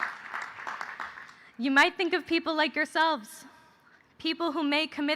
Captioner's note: cheers and applause